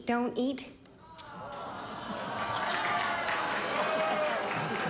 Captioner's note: audience groans